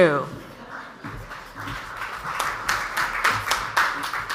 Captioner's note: audience applauds